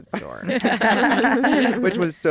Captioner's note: laughter